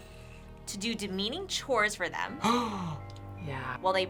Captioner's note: Thomas gasps